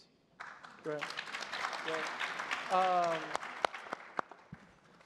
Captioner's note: crowd applauding